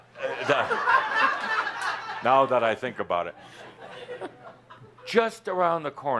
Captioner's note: laughter